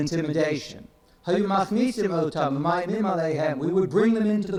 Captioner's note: speaks in foreign language